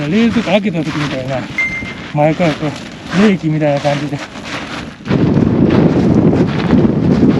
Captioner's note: wind picking up